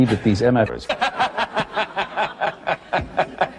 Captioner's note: dastardly laughter